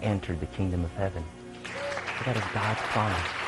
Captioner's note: clapping